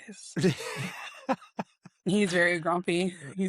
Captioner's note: laughs